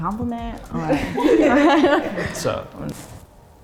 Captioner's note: everyone laughing